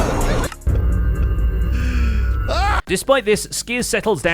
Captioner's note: End portal noise